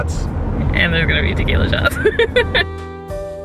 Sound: jazz music; laughs

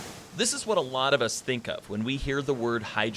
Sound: voiceover

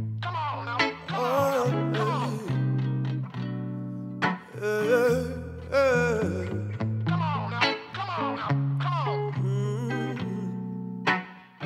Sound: vocalizing

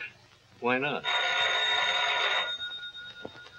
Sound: phone ringing

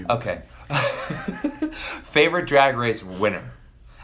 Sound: laughs

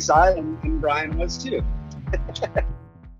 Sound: chuckles

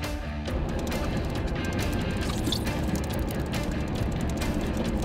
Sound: fishing line whirring

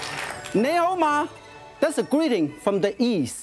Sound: speaks in foreign language

